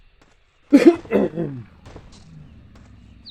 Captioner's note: coughing